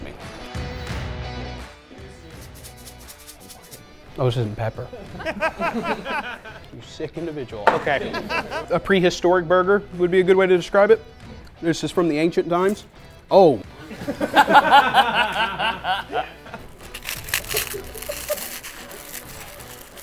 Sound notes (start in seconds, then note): 4.9 laughing; 13.8 laughing; 16.8 crunch